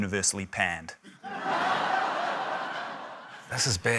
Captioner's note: laughter